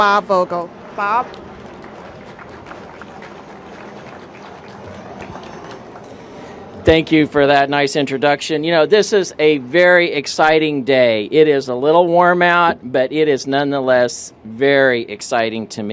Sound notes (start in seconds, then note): 4.7 applause